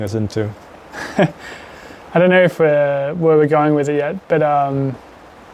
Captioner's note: laughs